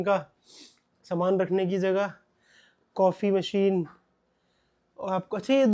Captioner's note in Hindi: नाक से की जाने वाली आवाज़